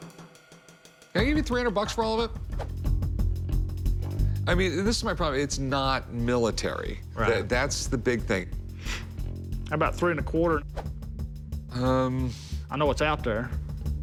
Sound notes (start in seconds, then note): none